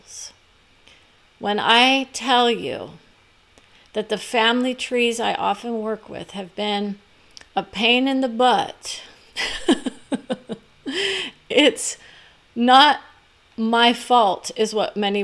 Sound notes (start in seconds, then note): 9.4 laughs